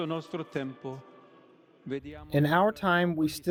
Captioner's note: through translator